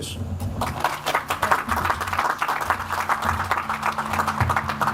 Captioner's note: audience applauds